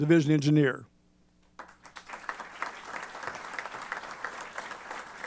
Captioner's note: applause